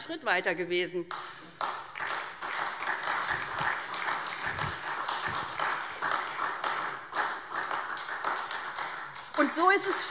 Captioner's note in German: Beifall SPD und Freie Demokraten